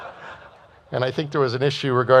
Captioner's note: laughter